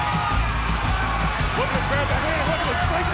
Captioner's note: crowd cheering